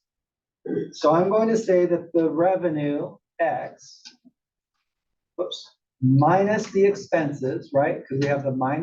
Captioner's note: cough